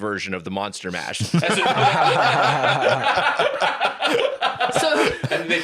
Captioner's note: all laughing